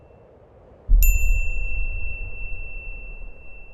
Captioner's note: bell rings